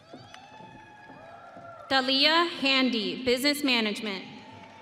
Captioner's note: audience cheering